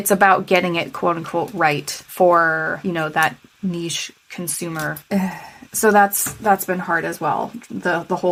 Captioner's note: sigh